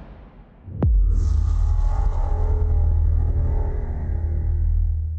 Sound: transition sound

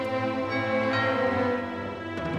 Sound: doorbell rings

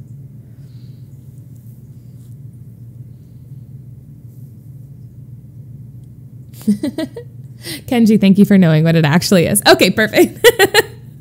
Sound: laughs

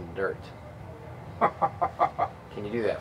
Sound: Cecil laughs

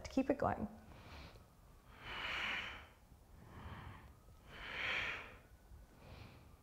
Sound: exhaling breaths

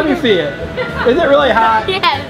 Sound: laughs

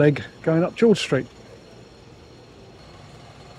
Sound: train clattering

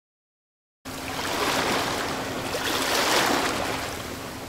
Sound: waves crashing

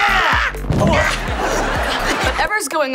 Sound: groaning

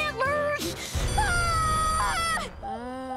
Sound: screaming

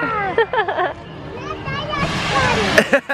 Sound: laughs

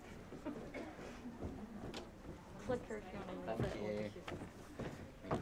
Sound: audience chattering

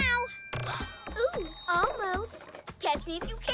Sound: gasps

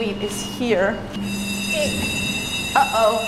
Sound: alarm ringing

